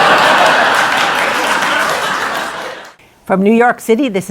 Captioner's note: laughter; applause